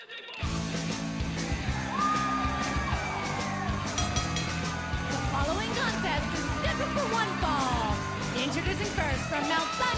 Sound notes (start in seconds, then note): 1.6 crowd cheering; 3.9 bell ringing